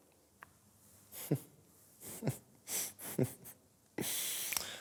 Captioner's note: snickers repeatedly